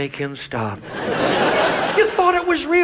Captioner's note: audience laughs